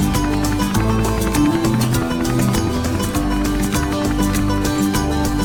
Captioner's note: helicopter blades whirring